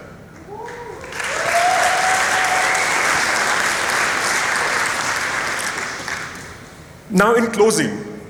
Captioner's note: applause